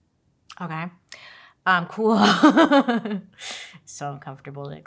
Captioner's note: laughs